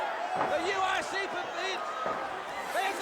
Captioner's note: crowd cheering